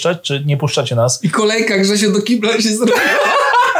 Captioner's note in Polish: śmiech